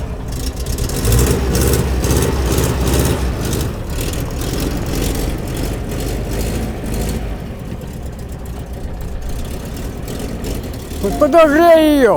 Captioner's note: running car engine